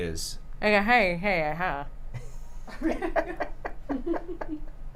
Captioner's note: laughter